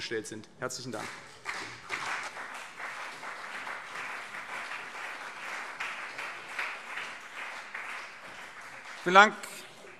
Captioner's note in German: Beifall CDU und BÜNDNIS 90/DIE GRÜNEN